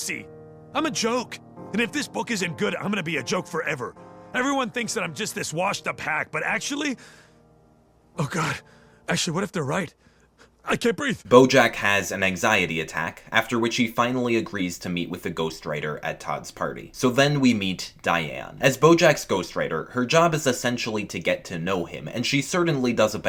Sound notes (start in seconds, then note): 11.5 voiceover